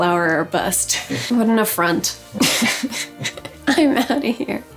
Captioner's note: laughing